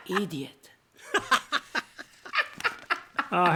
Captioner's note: laughter